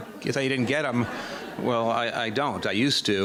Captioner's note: audience laughing